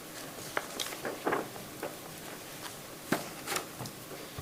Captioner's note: objects clacking